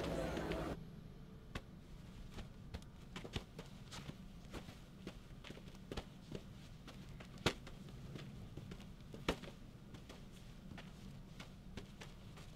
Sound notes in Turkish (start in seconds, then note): none